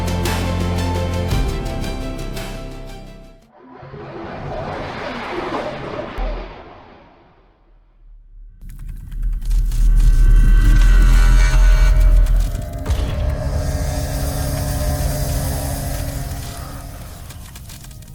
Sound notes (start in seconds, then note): 0.0 hopeful music; 7.2 silence; 8.6 keyboard clicking with tense music rising; 12.8 eerie music